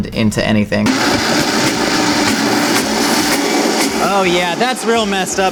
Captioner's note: blender blends